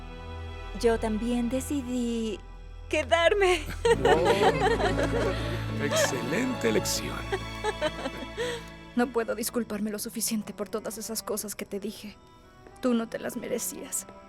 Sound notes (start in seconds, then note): 3.7 Todos ríen